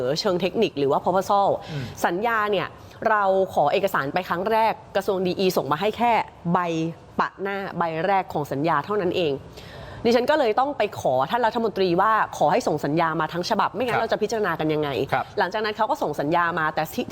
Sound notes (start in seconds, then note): 3.3 clears throat